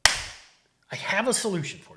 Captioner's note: clapping sound